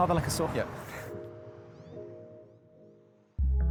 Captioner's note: chuckles